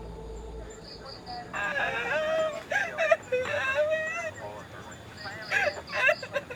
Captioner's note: dispatch talking; crying